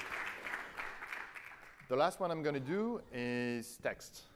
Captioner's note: applause